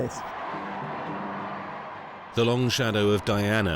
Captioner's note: crowd cheering